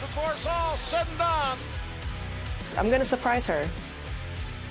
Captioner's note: none